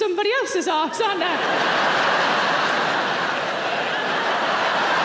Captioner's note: audience laughing